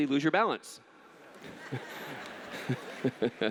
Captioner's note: laughter